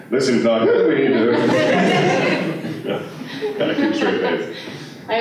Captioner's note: laughter